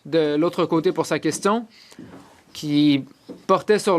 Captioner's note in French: voix de l'interprète